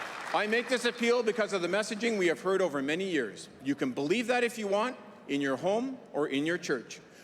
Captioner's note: cheering & Applause